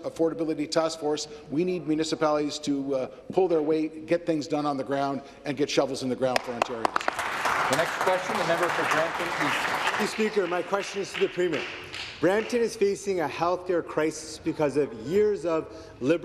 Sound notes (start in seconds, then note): 12.4 applause